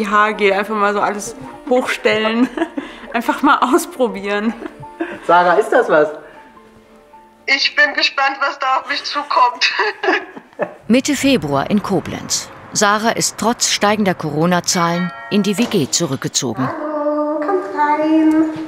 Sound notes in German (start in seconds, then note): 9.3 Lachen